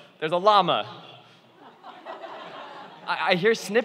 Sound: laughing

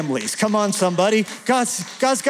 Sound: applause

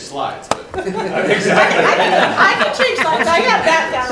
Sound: attendees laughing

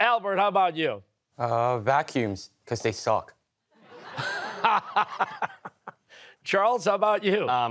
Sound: laughter

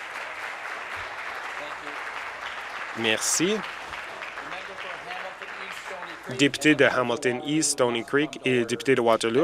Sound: applause

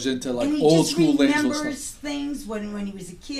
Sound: voiceover

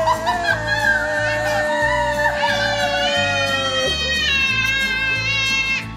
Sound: screams with joy

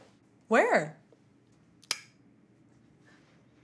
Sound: Tina clicks mouth again

